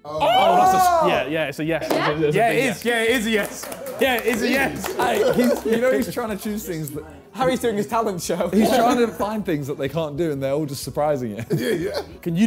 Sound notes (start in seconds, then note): 2.6 clapping